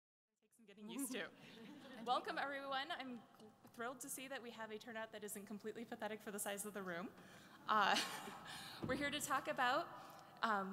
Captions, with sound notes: - [Voiceover] Take some getting used to (laughter) Welcome, everyone. I'm thrilled to see that we have a turnout that isn't completely pathetic for the size of the room. (laughs) We're here to talk about